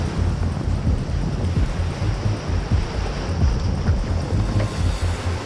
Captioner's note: suspenseful music continues; water sloshes